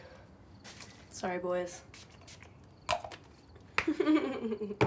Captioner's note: perfume hisses; chuckles